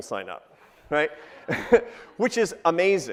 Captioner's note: crowd laughing